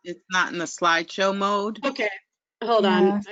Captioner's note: voiceover